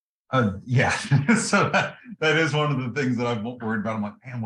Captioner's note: laugh